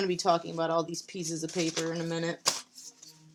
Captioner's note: none